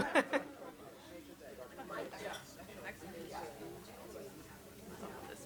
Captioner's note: chuckles; people chatter